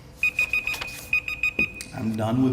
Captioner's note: beeping